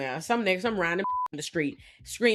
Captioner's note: beep